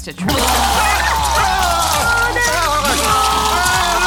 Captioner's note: both scream